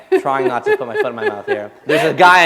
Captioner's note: laughter